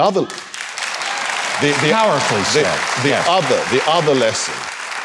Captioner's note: audience clapping